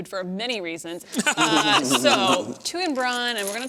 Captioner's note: laughter